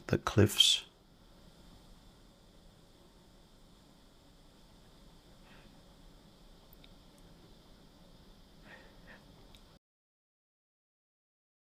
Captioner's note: silence